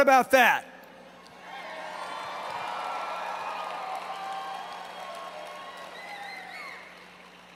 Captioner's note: applause